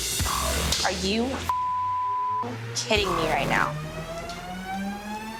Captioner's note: beep